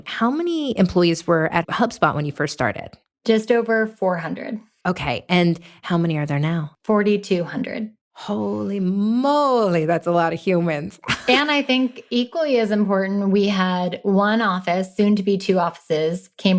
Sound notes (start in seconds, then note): 11.0 laughs